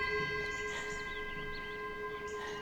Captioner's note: bell rings; birds chirping